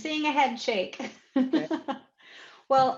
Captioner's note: chuckles